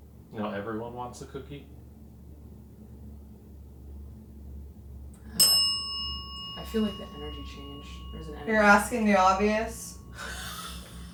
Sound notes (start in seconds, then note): 5.3 bell dings; 10.9 investigators laughing